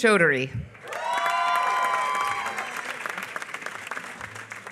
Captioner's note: applause